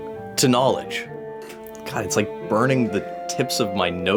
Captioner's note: coughing